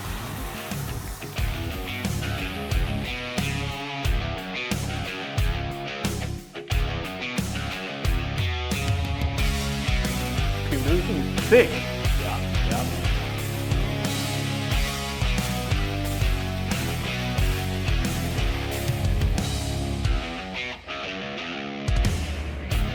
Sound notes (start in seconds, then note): 10.6 chatter